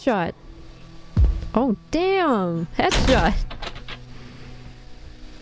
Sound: door slamming sound

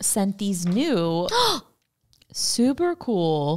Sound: gasps

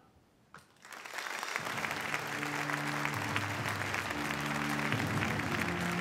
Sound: applause

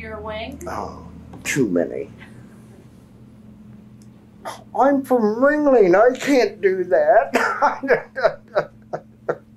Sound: laughs

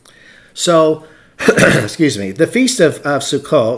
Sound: throat clearing

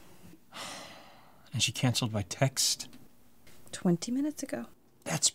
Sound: sighing

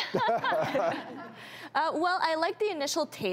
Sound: laughs

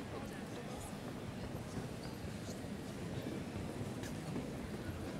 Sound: indistinct chatter

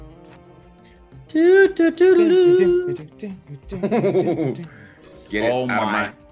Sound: laugh

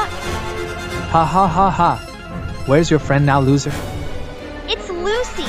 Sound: chuckles

